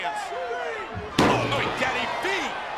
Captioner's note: steps clanging